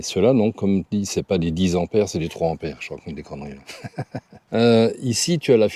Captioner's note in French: rires